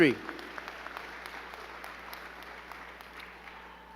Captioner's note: crowd clapping